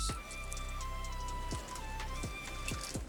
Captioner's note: crackling